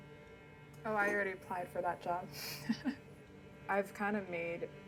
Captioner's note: laughs